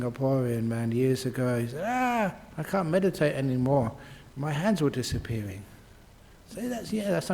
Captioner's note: ahhh